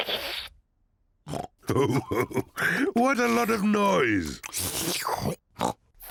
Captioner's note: slurps; oinks and laughs; slurps and oinks